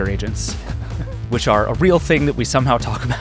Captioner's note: laughs